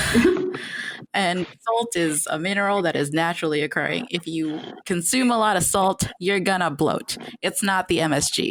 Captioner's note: laughter; laughter